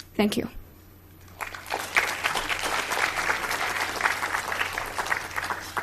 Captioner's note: audience applauds